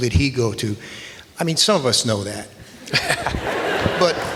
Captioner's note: audience laughs